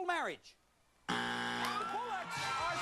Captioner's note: buzzer; family cheers